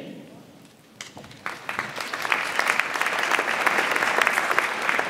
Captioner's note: audience applauds